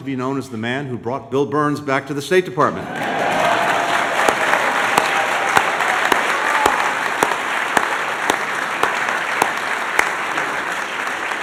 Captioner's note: cheers and applause